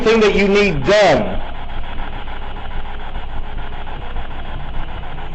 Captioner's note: static buzzing